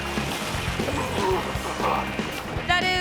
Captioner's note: grunts